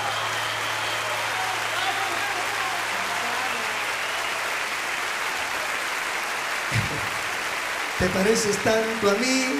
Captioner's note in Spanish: aplausos